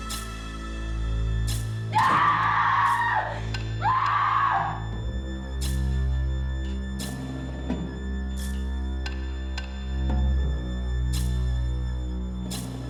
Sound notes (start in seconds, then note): 1.9 screaming